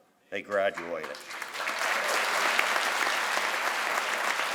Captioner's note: crowd applauds